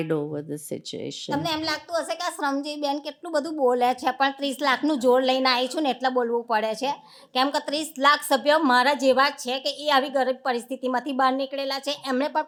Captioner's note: speaking gujarati